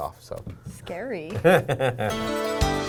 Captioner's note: laughing